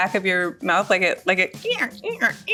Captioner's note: imitates squeaking noise